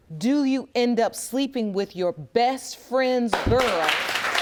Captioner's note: audience applauds